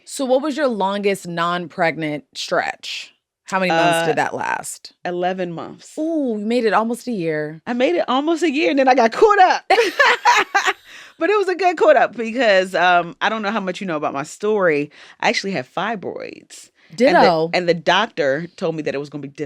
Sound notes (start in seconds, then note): 9.7 laughter